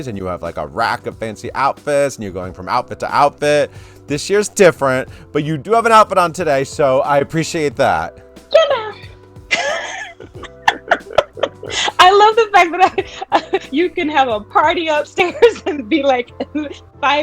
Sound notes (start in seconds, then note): 9.5 both laughing